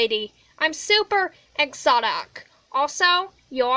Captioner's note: suburban white woman voice